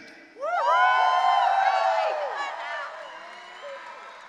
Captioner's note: audience cheering